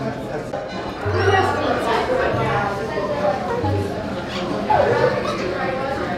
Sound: background chattering

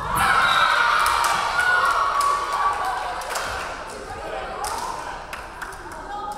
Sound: crowd cheering; referee whistling

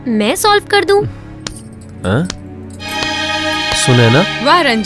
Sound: clapping

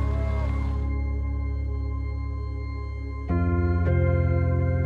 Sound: people cheering; slow music

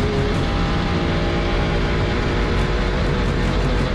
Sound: engine roaring

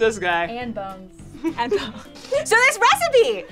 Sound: laughs

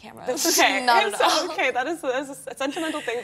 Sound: laughs happily

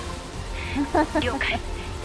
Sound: laughs

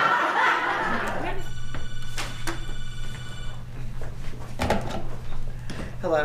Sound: laughter; telephone rings

